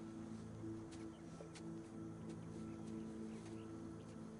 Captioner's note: whispers